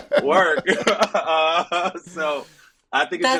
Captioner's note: Justin and Echo laughing